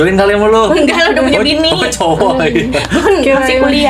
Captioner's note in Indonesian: tertawa